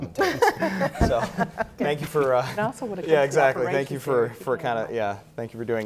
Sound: panel laughter

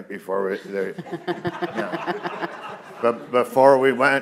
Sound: all laughing

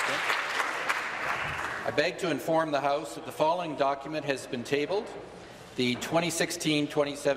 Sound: applause

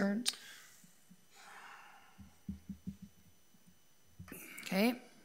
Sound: trustee sighs

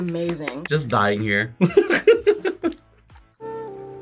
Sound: laughs

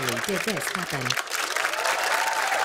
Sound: cheers and applause

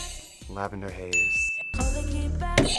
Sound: buzzer rings; bell rings

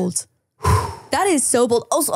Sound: exhales

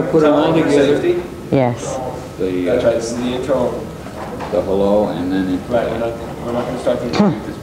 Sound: distant chattering

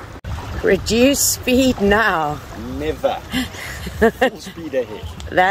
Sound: laugh

